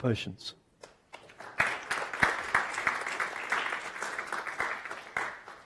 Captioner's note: audience applauds